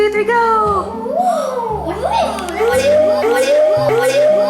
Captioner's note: children oohing